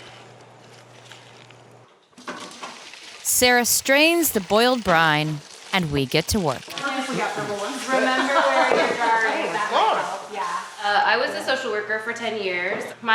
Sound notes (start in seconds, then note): 8.1 laughter